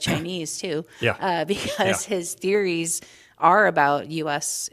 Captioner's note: laughter